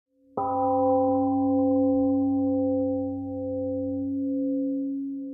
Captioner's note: temple gong rings and fades